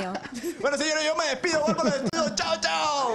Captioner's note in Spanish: risas